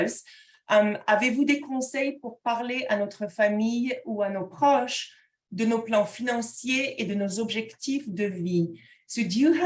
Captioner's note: speaking in French